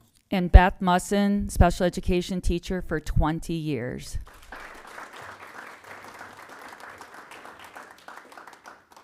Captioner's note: applause